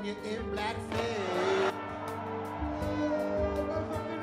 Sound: audience cheers

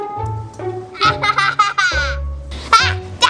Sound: laughs

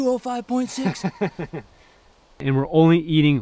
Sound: laughs

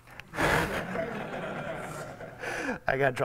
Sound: audience laughs

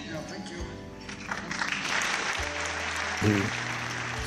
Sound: audience applauds

